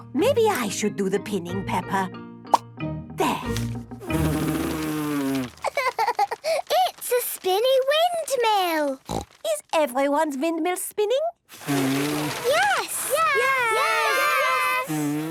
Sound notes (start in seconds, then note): 3.2 blows; 11.5 blowing, fluttering